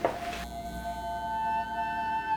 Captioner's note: lights buzzing